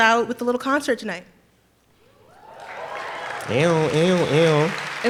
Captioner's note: applause